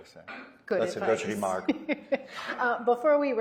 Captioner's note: laughs